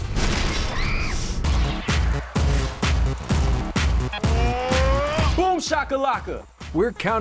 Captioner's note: screaming